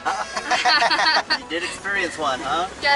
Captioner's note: laughter